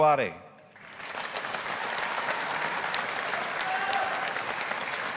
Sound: audience applauding

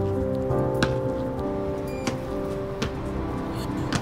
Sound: ball thudding

